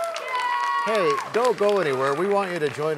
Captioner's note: cheers and applause